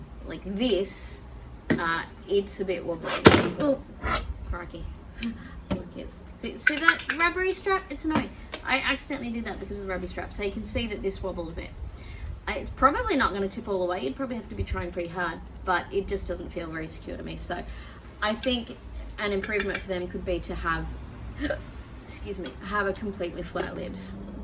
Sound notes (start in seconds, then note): 2.7 thuds onto table; 6.1 straps slaps repeatedly against jug; 21.1 hiccups